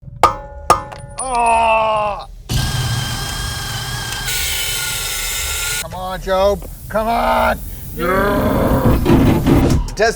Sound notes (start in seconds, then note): 0.0 tool clangs; 0.0 bolts clang; 2.5 tool whirs; 4.4 tool grinds; 8.0 slow motion grunting